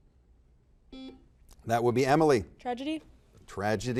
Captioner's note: buzzer buzzes